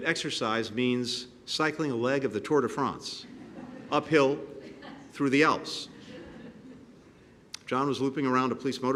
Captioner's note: laughter